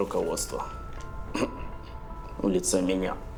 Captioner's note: clears throat